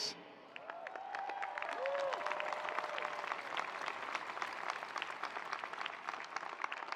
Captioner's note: attendees applauding; attendees cheering